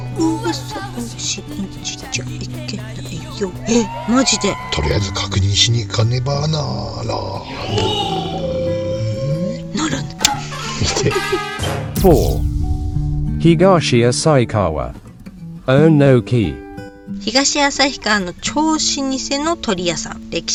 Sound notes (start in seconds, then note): 9.8 laughs